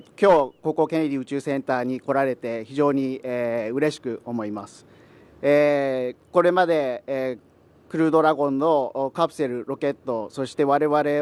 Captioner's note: speaking japanese